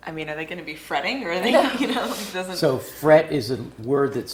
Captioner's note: laugh